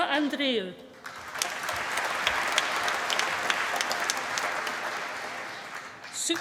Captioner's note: applause